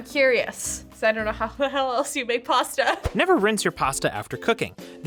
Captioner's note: voice-over